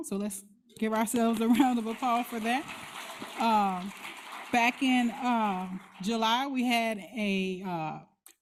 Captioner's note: applause